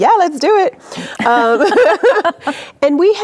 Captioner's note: both laughing